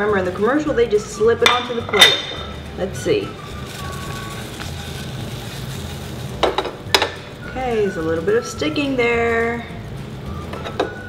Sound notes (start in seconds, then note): 4.3 sizzling; 6.3 clanking